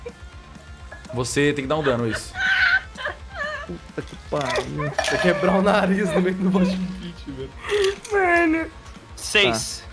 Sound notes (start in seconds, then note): 3.0 laughs